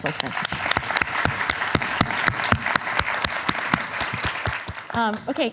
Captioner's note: applause